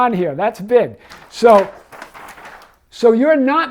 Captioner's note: paper rustles